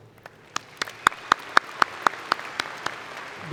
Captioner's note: applause